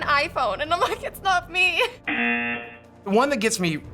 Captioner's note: buzzer